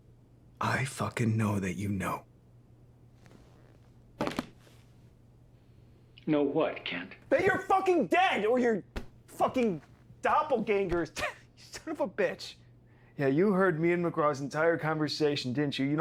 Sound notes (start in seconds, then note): 4.3 cell phone clattering; 11.0 Kent scoffing